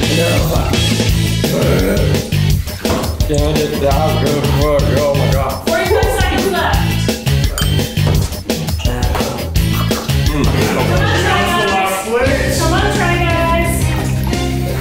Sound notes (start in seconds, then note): 1.4 mumbling in pain; 4.4 groans